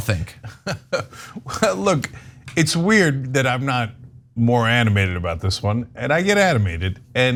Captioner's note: laugh